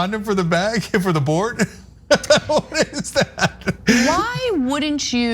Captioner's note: laugh